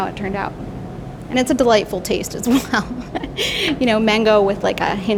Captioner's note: laughing